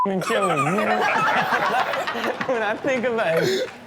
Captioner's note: Steelo, Chanel & audience laugh